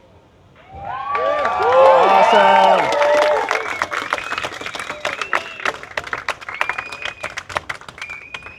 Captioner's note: applause